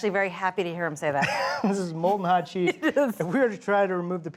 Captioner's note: chuckles